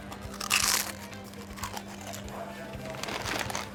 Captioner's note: munching sounds